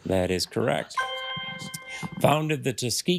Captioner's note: triumphant chime